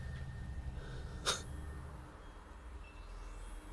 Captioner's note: chuckles